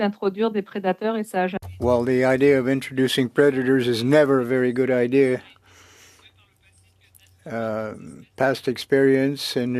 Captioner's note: speaking French